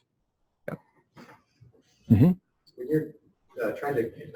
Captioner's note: pause